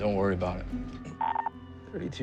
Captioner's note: radio beeping